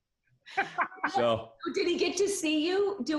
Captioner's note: deep voice